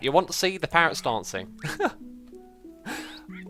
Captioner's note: small chuckle